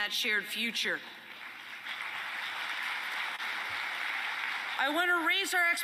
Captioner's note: applause